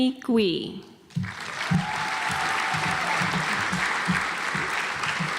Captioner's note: audience applauds